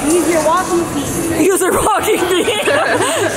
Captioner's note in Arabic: يضحك